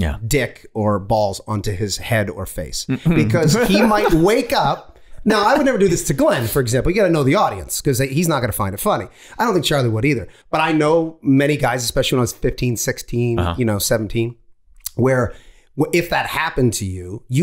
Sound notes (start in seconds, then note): 2.9 Glenn laughing